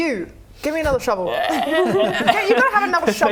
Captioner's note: ribbet